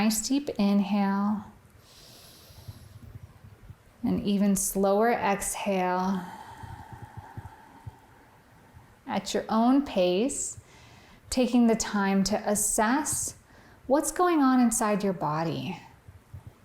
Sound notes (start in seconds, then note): 1.9 inhaling; 6.0 exhaling